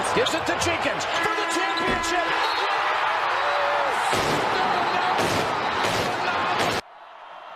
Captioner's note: cheering; crowd noise and cheering